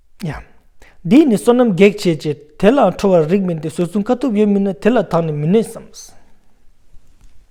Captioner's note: tibetan